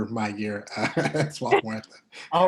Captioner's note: laughing